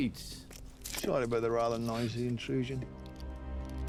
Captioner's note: scottish accent